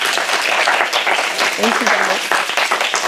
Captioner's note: applause